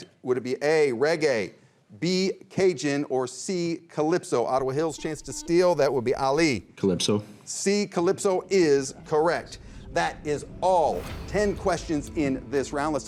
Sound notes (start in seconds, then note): 5.3 buzzer rings